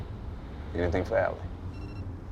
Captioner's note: phone beeps